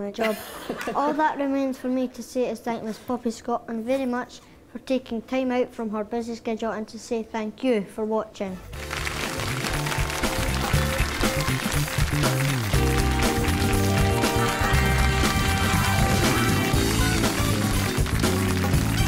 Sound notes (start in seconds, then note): 0.5 audience laughs; 8.3 audience applauds